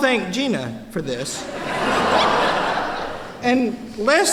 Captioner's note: laughter